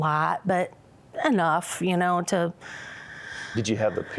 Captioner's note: sighs